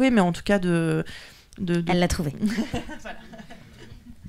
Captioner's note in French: rires